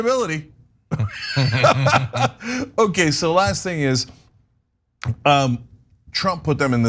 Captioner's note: laugh